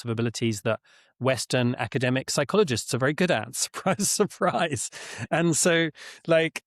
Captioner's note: chuckles